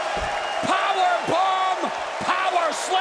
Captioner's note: crowd cheering